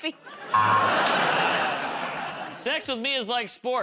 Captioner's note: laughter, buzzer